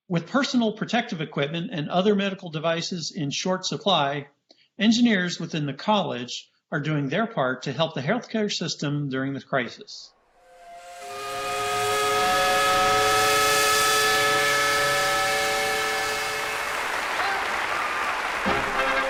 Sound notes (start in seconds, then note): 10.3 steam whistle; 16.2 applause